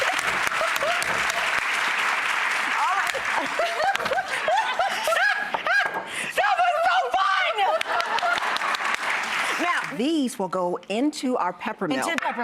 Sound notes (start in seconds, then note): 0.0 laughing; 2.7 laughing; 7.7 clapping